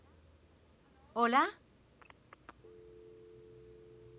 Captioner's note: click, dial tone